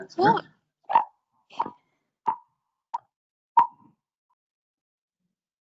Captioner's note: electronic tone beeping